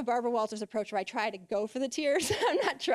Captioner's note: laughing